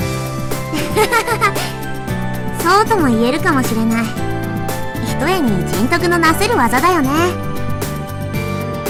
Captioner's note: laughs